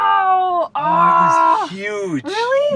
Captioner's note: she groans